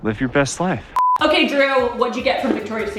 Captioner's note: beeping